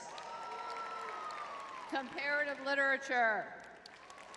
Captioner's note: audience cheering; audience clapping